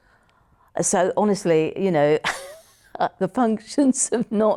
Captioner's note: laughs